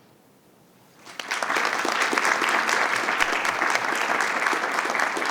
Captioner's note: audience applauding